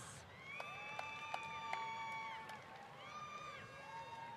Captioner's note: applause